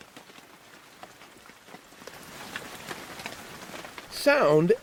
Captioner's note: raindrops